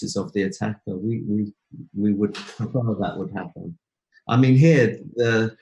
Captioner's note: audio going out